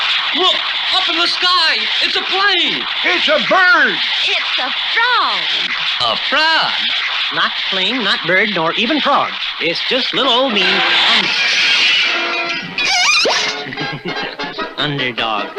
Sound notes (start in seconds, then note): 10.9 crash!; 12.9 laughs!